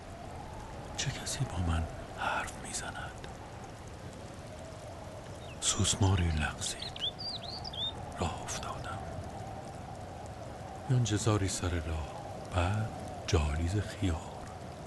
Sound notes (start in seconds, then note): 9.3 wind is blowing